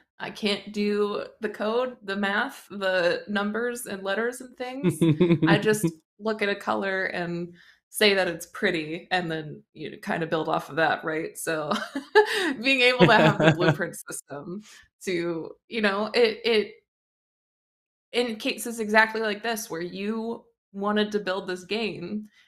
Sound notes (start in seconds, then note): 13.0 laughs